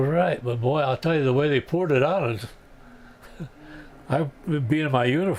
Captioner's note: laughs